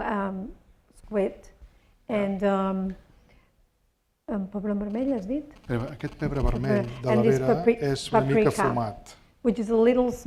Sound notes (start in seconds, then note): 2.5 speaking spanish